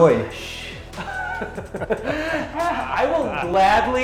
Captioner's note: chuckling